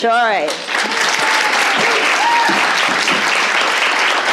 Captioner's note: applause